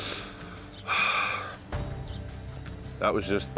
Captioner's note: sighs